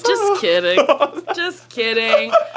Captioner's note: laughs